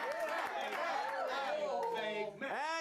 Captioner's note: audience cheering